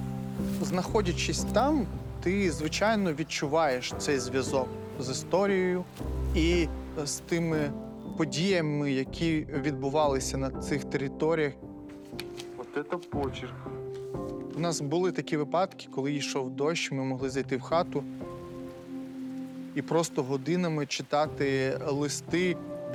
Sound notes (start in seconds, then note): 17.2 rain pattering gently